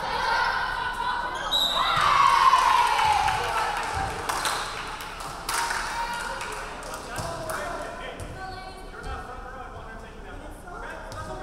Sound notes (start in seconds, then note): 1.4 referee whistling; 1.7 crowd cheering